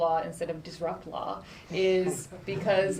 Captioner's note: laughter